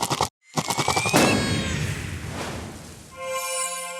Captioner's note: explosion